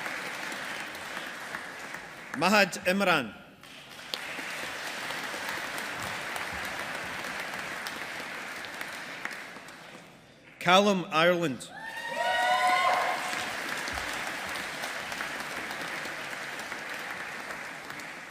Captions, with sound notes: Mahad Imran. (AUDIENCE APPLAUDING) Calum Ireland. (AUDIENCE APPLAUDING)